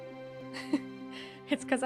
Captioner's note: chuckle